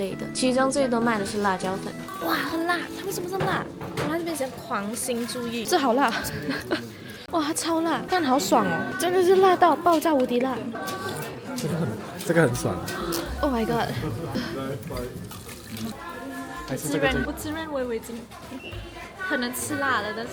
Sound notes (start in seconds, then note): 6.1 laughing